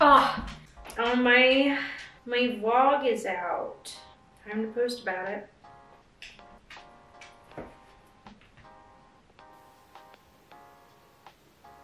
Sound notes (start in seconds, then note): 6.3 Benji walking; 9.2 gentle music